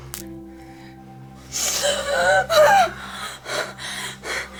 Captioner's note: gasping